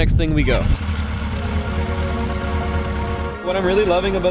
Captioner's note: engines